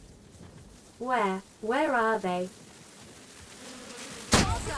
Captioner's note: buzzing